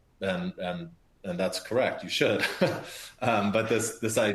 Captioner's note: laughs